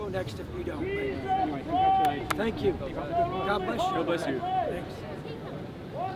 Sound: man shouting in the distance

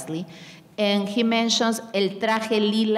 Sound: speaking in a foreign language

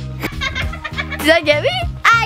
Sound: laughter

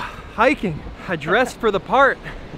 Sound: none

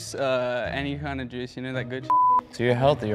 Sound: beep

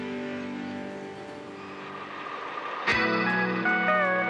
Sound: wind howling

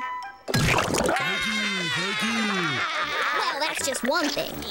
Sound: laughing

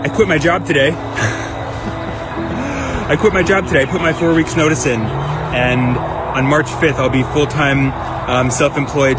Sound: chuckles

